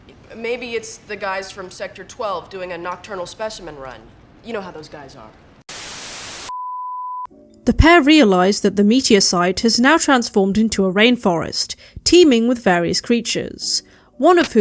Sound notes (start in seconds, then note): 5.6 static